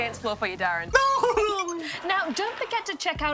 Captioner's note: laughs